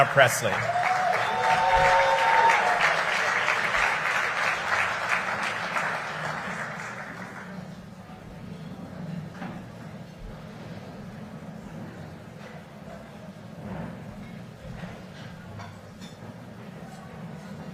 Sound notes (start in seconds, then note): 5.7 cheering and applause